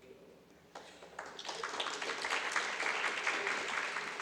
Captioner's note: audience applauds